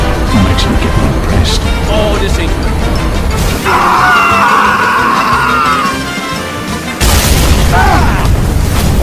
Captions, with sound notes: I'm actually getting impressed. Oh, this aint good. *Screaming*